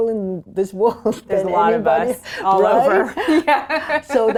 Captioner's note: laughing